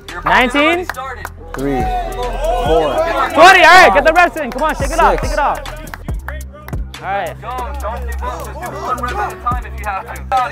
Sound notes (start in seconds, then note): 1.5 crowd shouting indistinct; 6.5 crowd clapping hands; 7.5 people shouting indistinct